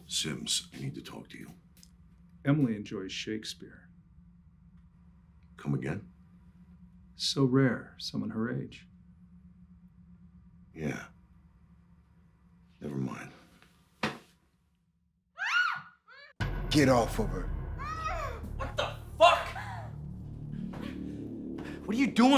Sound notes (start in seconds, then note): 15.4 Michelle screaming